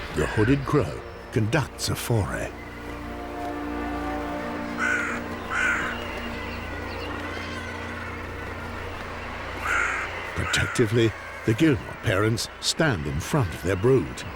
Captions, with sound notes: The hooded crow conducts a foray. [crow caws] Protectively, the guillemot parents stand in front of their brood.